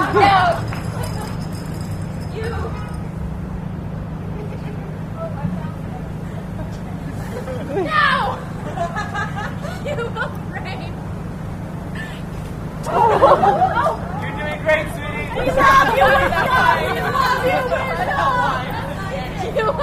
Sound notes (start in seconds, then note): 11.1 laughing; 12.7 audience gasps; 19.6 laughing